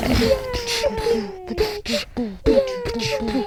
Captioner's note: terrible beatbox